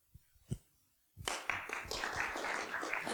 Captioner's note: applause